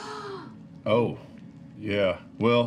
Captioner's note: gasps